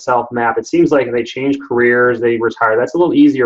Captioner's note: murmurs